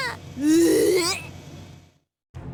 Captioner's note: hurl